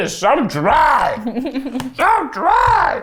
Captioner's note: laughs